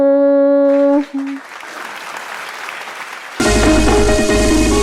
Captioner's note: applause